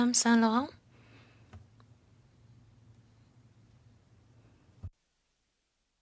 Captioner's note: speaking French